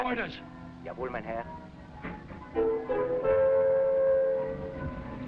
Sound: driver speaking foreign language

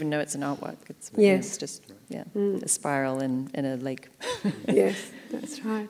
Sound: laughs

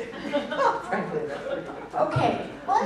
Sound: laughter

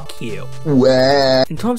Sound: Mario Cries

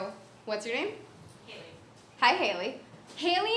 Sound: voiceover

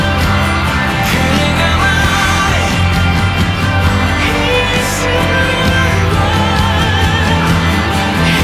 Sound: audience laugh

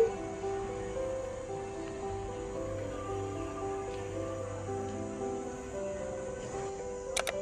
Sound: heavy rain

